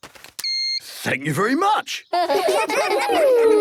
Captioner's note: beeps; children giggling